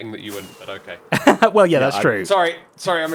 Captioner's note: laughs